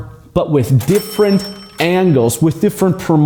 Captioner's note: cash register dings